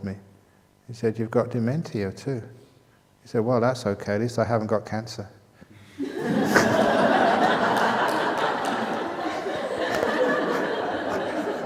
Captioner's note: laughter